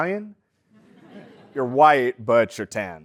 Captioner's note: laugh